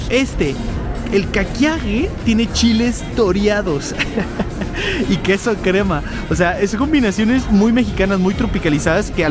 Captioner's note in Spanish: risas